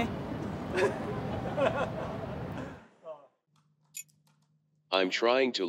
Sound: laughing

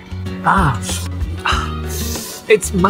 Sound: winces

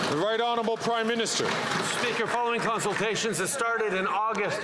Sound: some Applause

